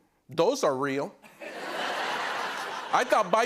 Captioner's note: laughter